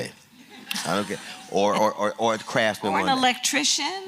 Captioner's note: laughter